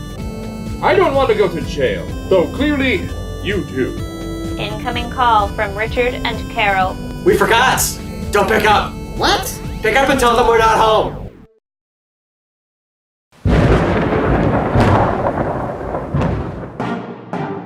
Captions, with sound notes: I don't want to go to jail, though clearly you do. COMPUTER VOICE Incoming call from Richard and Carol. We forgot! Don't pick up! What? Pick up and tell them we're not home! (distant thunder)